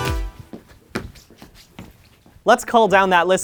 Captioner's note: lonely squeaking